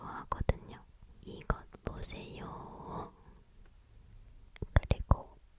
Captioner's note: with a funny tone